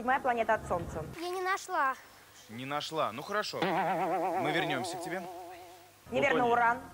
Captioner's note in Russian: звук ошибки